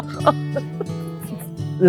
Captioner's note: laughs